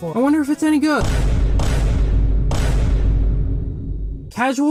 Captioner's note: Repeated vine boom sound effects